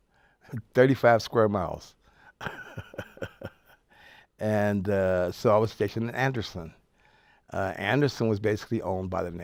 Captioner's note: laughs